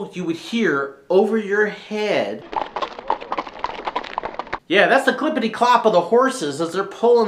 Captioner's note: clopping sounds from horses hooves